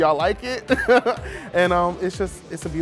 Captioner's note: laughing